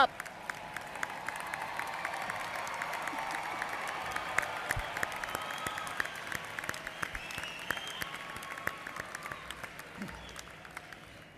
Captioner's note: applause